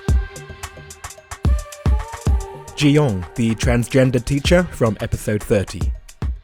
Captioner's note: voiceover